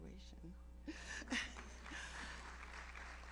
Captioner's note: laughs; audience applauds